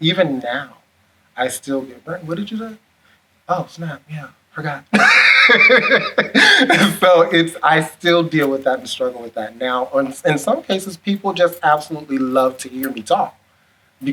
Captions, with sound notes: Even now, I still get, "Brenton, what did you say?" "Oh, snap, yeah, forgot." (laughs) So it's I still deal with that and struggle with that now. In some cases, people just absolutely love to hear me talk